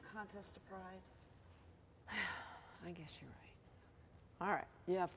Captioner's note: sighs